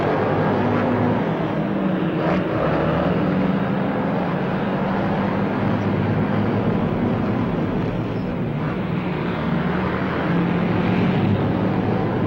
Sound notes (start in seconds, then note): 1.8 engines whirring